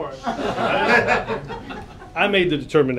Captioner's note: laughter